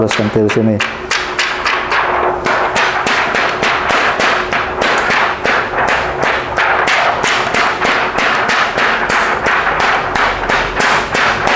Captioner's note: PET film sound